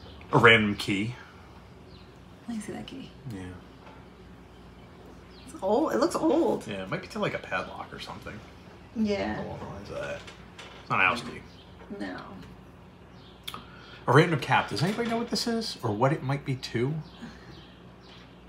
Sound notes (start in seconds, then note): none